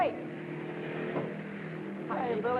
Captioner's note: car revving